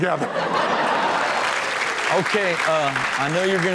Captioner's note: audience laughs; audience applauds